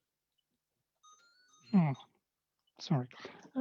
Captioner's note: phone rings